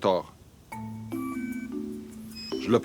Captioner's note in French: bips sonores